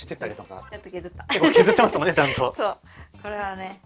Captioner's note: laughs